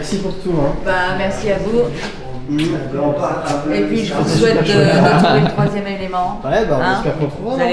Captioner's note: exchange of kisses